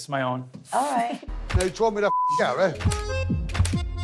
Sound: beep; upbeat Italian music

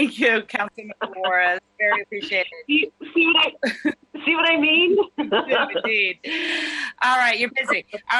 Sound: laughter

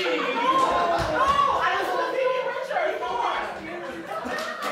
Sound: chaotic sympathy noises

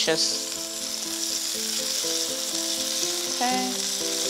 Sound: sizzling continues

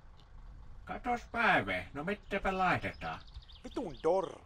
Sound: shopkeeper speaking Finnish

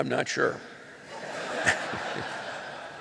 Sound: laughter

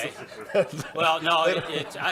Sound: laughter

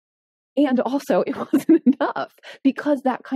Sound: laughing

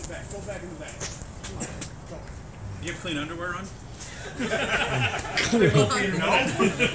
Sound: laughing

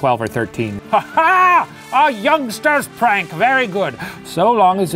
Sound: laughing

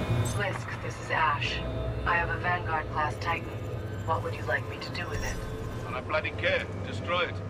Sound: radio

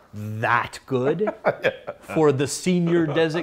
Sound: laughs

